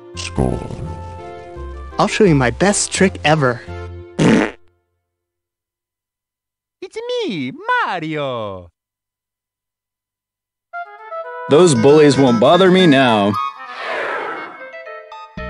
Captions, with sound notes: Scorn. I'll show you my best trick ever! [FART] It's a me, Mario! Those bullies won't bother me now! [FLYING INTO SPACE NOSIES]